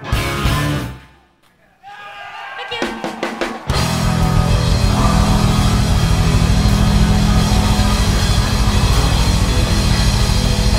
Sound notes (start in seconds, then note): 2.0 crowd cheering; 3.7 electric guitar rock music